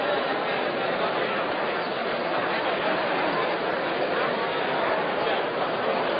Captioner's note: crowd noise